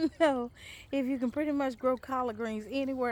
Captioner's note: laughs